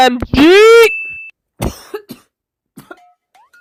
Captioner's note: coughing in the background